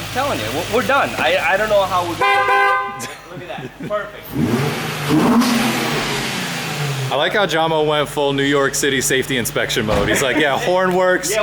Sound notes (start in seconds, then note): 2.4 hooting; 4.2 engine revving